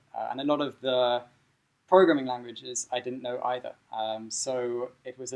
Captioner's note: none